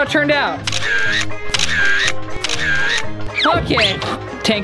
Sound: camera Clicks

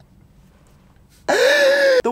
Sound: gasp

